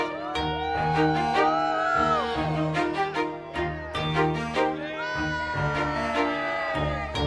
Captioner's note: cheers